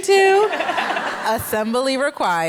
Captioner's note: laughter